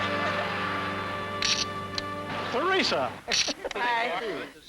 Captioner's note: laughing; camera click; indistinct chatter